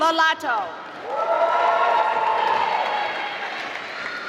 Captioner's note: applause